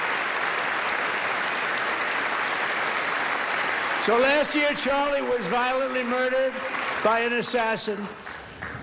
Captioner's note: applause